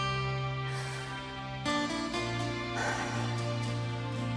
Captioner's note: woman breathes heavily